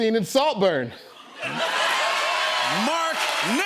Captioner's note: cheers and applause